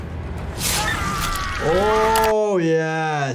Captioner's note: Aemond screaming!